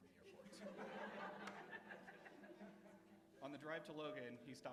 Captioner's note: laughter